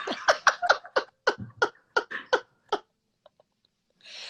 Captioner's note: laughter